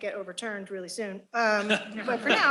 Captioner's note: laughter